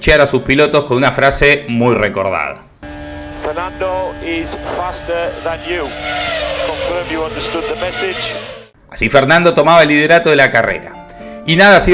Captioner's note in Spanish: radio